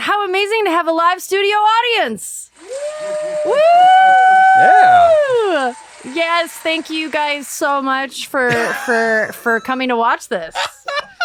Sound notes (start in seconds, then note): 2.6 cheers